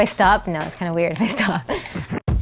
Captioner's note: laughter